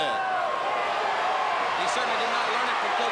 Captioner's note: crowd chatter